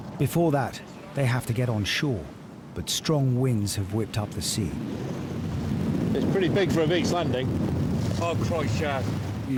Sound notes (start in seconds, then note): 4.6 wind swooshing